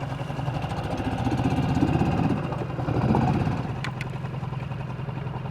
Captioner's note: boat engine continues droning